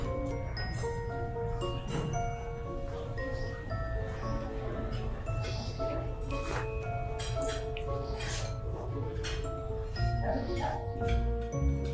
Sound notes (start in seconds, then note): 0.9 voices murmuring; 4.7 mysterious music continues; 8.6 silverware clinking